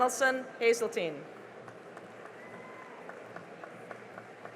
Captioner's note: cheering and applause